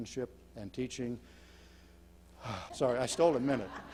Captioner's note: exhales